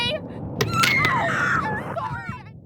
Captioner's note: bone cracks; screams